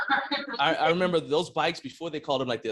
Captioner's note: laughing